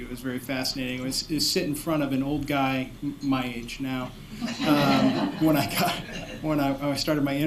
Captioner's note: laughter